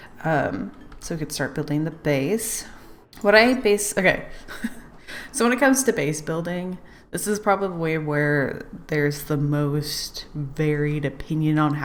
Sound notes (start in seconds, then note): 4.5 laughs